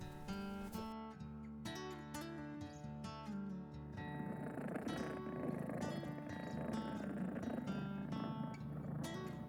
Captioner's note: cat purring